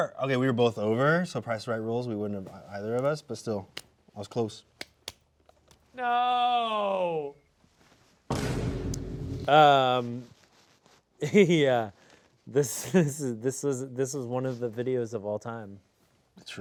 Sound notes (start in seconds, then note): 11.4 chuckling